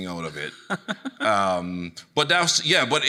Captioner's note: chuckling